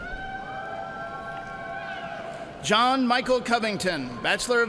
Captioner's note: cheers and applause